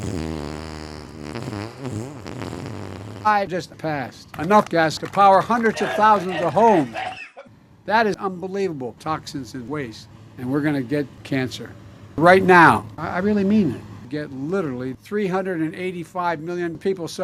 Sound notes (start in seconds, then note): 0.0 extremely lengthy fart which drove away the 5 people attending this speech; 5.5 Tourettes Guy dying in background